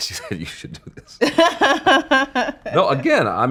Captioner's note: laughing